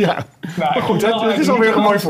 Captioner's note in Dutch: Gelach